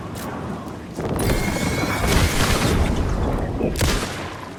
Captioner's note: roaring; gunshots